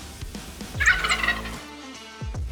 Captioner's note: turkey gobbling